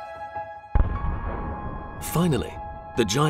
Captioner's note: blasting